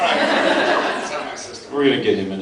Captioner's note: laughs